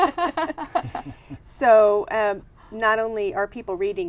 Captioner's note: laughter